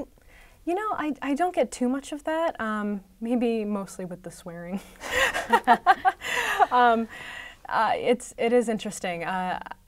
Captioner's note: laughter